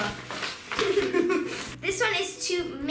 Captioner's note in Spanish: ambos riendo